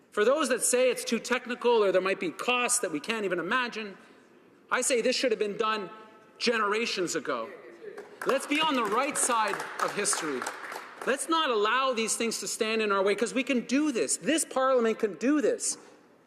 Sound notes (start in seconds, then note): 10.6 applause